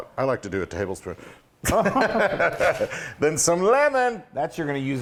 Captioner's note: laugh